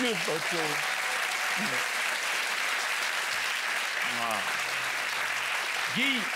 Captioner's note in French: applaudissements